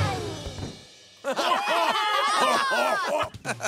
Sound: laughing

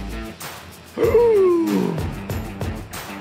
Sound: gasp

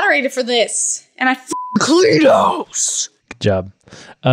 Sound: beep

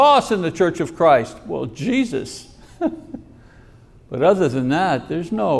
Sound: chuckles

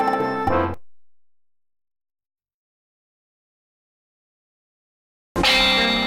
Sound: silence; old-fashioned music resumes

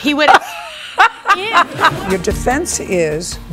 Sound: laughs

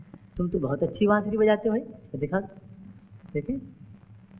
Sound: none

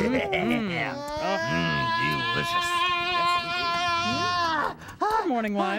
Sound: Lionel yelling

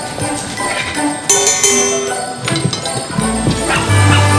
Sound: ringing

